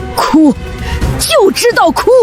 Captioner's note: crying